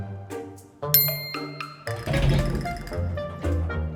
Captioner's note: bell chimes